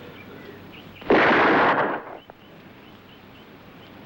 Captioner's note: gun firing